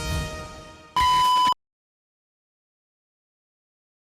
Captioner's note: beeping